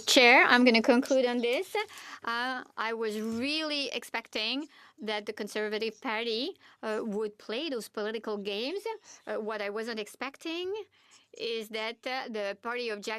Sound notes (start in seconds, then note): 6.3 speaking French